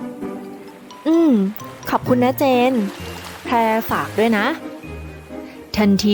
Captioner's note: Pha Phrae, into phone, warmly